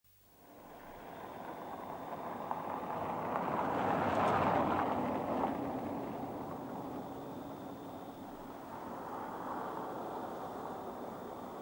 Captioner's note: car driving into the driveway